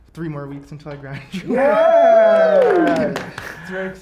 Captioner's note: cheering